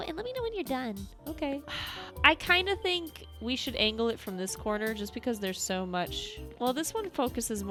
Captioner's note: sigh